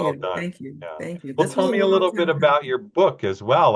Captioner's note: speaks faintly